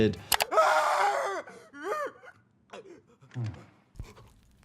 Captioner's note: player screaming